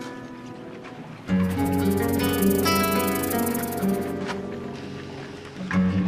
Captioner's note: snake rattle